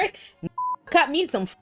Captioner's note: beep